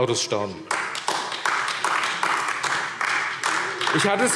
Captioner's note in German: Beifall AfD